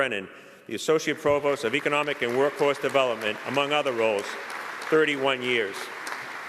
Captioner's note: applause